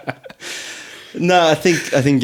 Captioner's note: laughing